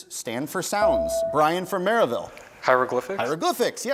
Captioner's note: bell rings